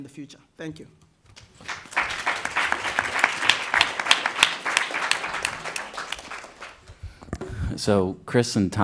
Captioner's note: applause